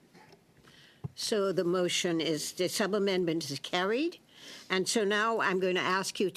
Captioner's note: speaking French